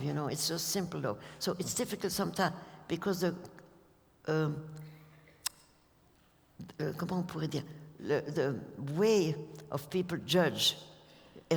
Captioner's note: french